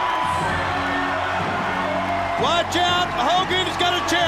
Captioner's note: crowd cheering